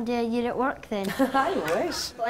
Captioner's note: audience laughs